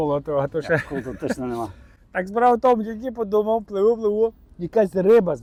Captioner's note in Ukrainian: сміх